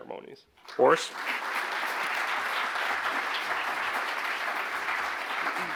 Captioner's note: audience applauding